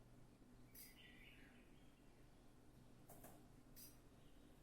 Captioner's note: birds singing